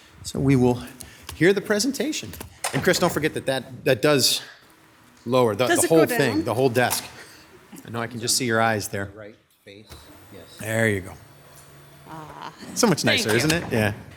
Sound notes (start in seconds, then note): 10.0 overlapping chattering